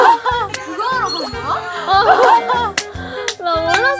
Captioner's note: everyone bursts into laughter at response